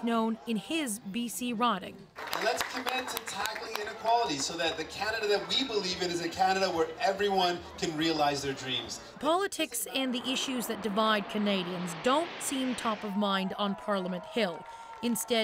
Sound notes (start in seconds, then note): 6.1 cheers and applause